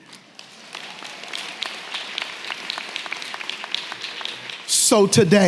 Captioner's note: audience clapping and cheering